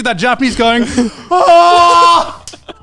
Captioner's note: yelling; speakers laughing